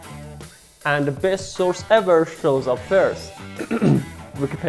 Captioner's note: clean Throat